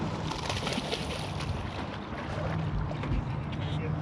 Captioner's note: fish splashing